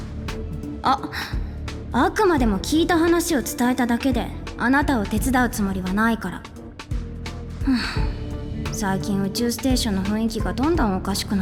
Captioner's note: sigh